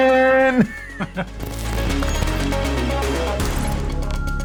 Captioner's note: laughs; energetic electronic music